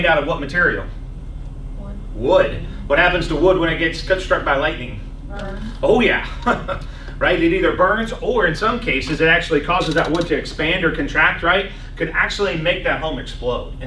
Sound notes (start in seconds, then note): 3.0 laughs